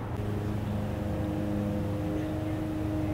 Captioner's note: lawnmower